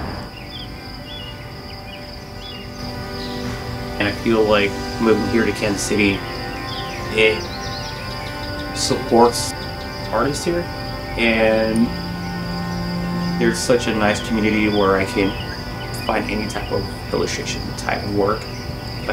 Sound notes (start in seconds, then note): 0.5 birds chirping; 0.5 gentle music continues